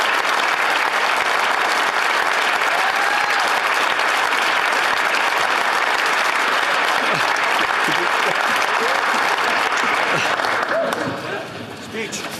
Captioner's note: applause